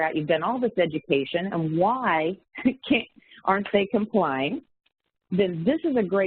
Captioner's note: chuckles